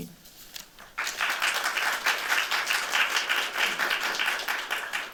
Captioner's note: applause